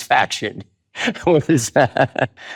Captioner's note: laughs